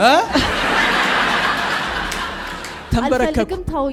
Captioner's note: laughter